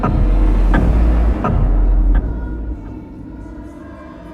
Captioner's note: foreboding music; clock ticking